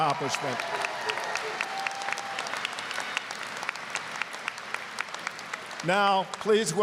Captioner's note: applause, cheering